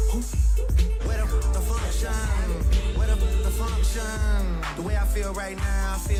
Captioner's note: ringing